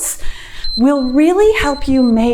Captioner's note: timer beeps